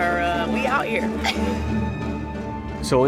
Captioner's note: laughing